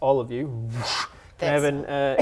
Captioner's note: whoosh